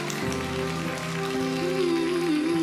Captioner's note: crowd cheers, applauds